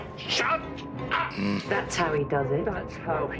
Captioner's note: small, frustrated growl